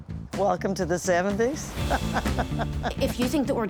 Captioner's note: laughs